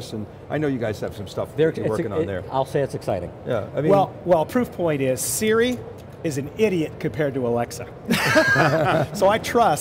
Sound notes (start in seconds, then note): 8.1 group laughs